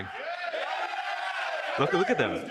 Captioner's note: crowd cheerfully screaming